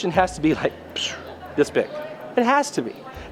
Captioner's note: whistles